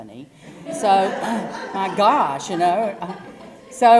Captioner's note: laugh; cough